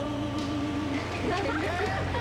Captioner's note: nervous giggles